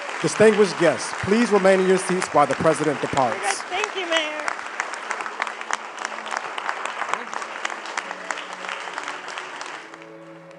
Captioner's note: applause